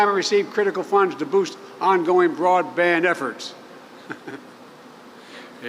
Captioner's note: laughs